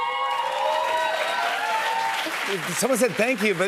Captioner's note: cheers and applause